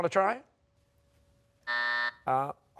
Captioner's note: buzzer